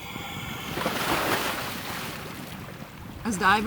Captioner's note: man shouting drowns out diver; splash; respirator whirring